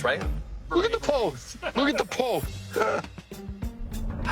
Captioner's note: laughs